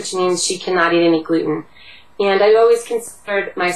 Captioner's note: Vietnamese